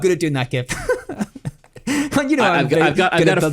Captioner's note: laughs